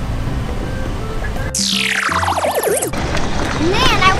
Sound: Pacman sounds

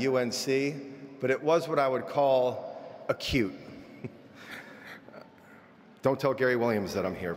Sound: laughing

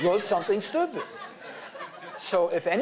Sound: laughter

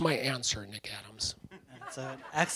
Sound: laughter

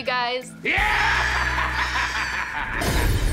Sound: maniacal laughing

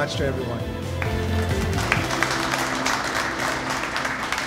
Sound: audience applauds

